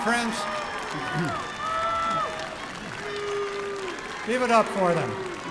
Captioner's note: applause